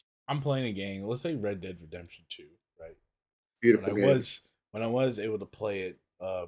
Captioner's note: none